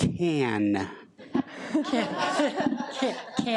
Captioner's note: audience laughs